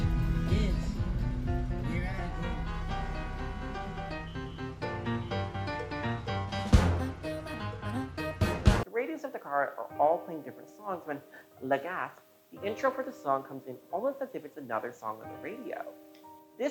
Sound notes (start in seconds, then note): 11.3 legasp